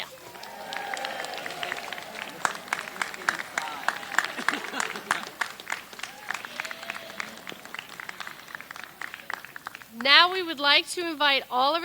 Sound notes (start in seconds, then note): 0.2 attendees cheer; 0.2 people applaud; 3.2 people laugh; 7.0 people cheer